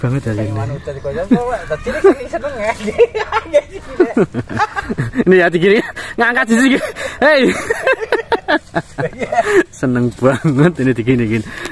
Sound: laughs

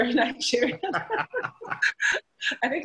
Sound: laughter

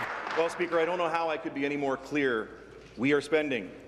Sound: applause

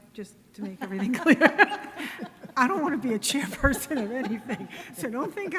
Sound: laughing

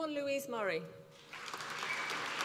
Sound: applause

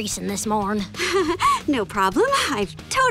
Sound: laughing

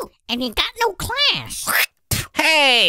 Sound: hocks a loogie

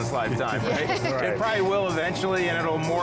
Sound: laughing

